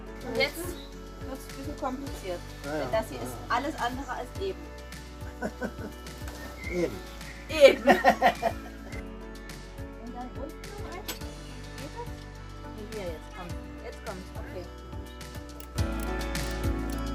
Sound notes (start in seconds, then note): 7.7 laughs